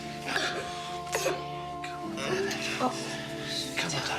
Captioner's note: coughing